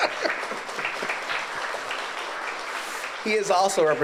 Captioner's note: audience applauds